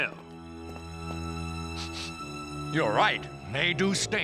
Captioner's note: sniffs